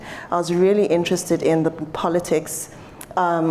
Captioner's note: none